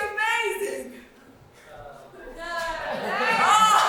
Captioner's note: lacklustre audience response